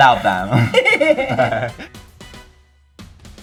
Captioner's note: laughing; soft upbeat music